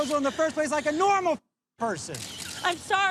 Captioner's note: beep